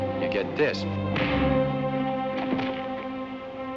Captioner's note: fist thuds